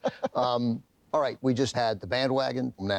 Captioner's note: chuckles